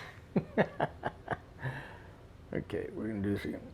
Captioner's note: laughs